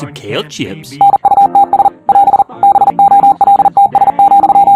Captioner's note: robot beeping